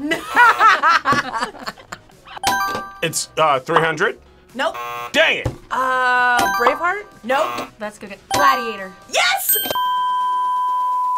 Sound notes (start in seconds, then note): 0.0 group laughs; 4.7 buzzer rings; 4.7 buzzer; 7.2 buzzer